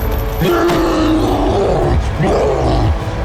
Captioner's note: grunting and roaring